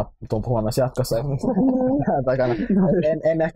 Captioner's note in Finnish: kaikki nauravat